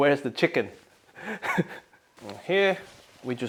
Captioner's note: laughs